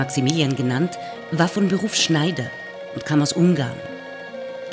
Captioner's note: machine whirring